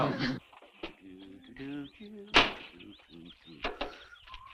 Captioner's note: Harris humming